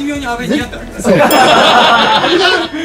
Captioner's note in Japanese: 笑い